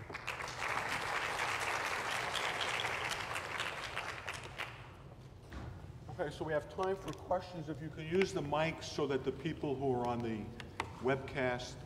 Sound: applause

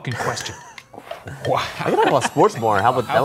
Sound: laughs

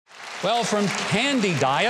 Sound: audience applauding

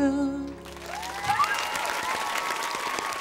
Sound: applauding

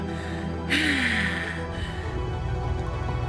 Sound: sighs

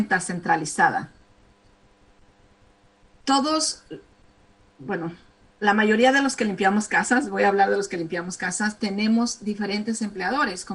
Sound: speaking spanish

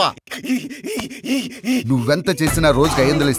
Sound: hysterics

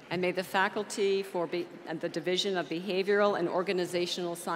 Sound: none

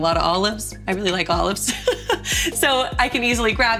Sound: laughs

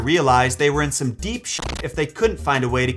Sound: static

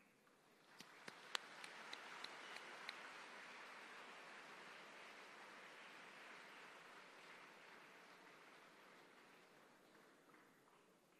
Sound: applause

